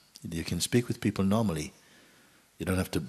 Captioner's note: none